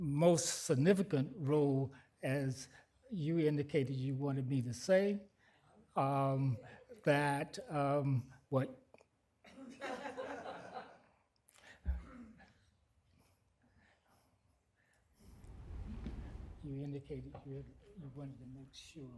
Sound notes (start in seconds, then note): 9.4 laughter